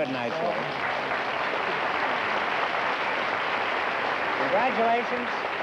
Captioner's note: applause